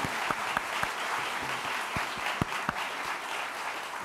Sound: applause

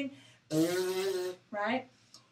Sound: lips buzzing

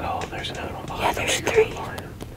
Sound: whispering

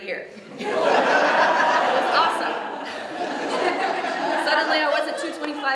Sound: audience laughs

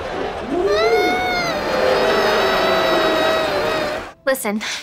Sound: slow-motion crying

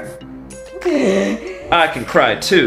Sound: moans

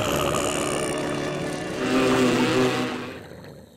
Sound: buzzing; snoring

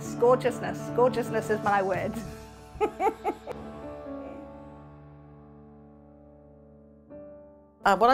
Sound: laugh

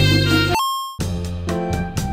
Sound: happy elevator music; arcade game coin noise

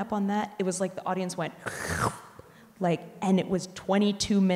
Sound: slurps

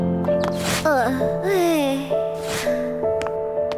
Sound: sighs

